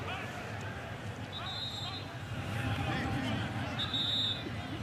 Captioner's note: whistle